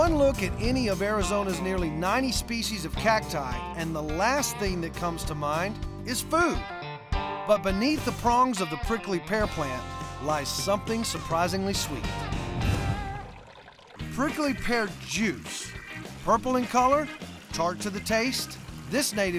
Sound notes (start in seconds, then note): 12.6 pouring